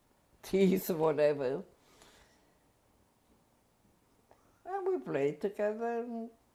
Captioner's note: pauses for 3 seconds